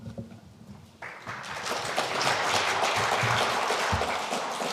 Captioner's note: audience applauding